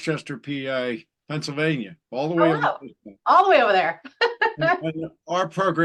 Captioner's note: chuckle